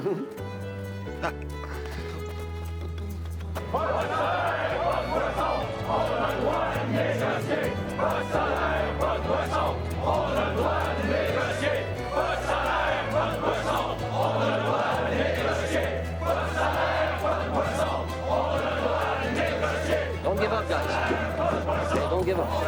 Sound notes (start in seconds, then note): 0.2 warm music; 2.3 Eric hums; 3.8 protesters chanting in foreign language